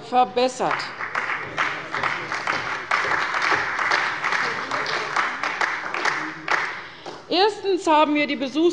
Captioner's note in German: Beifall bei der CDU und bei Abg. des BÜNDNISSES 90/DIE GRÜNEN